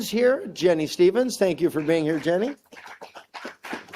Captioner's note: applause